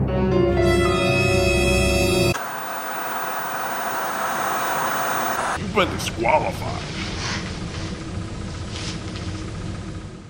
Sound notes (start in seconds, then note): 2.3 static